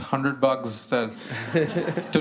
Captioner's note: laughter